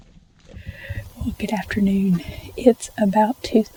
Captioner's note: whispering